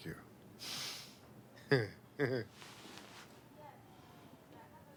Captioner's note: chuckles